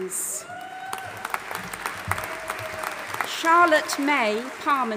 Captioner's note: audience applauding and cheering